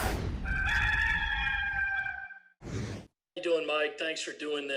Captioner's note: cock crowing